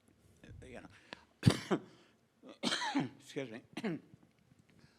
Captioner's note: coughing